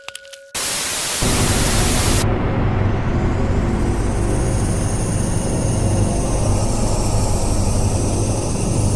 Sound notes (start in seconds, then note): 0.5 static crackling; 1.2 dramatic music